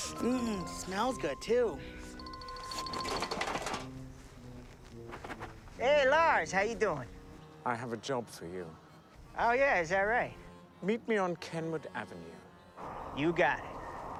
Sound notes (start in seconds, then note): 0.2 sniffing; 2.6 box clanking